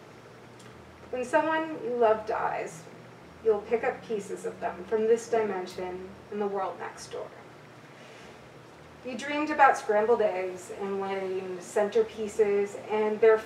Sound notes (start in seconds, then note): none